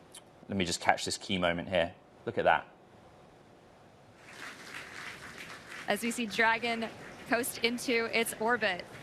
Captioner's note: applause